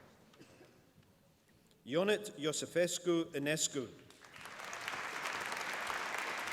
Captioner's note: applause